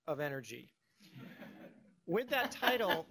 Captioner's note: laughter